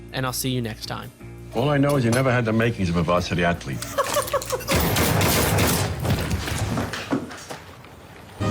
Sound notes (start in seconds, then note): 3.8 laughs; 4.7 gunshots